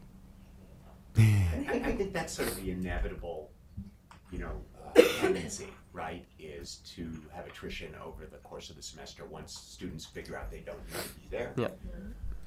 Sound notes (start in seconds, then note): 5.0 audience member coughing